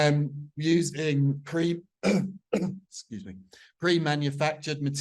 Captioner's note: coughs